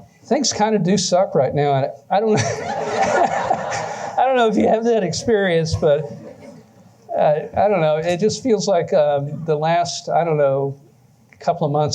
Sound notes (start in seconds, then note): 2.3 laughter